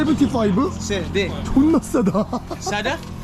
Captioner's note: laughing